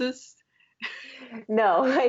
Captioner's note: laughter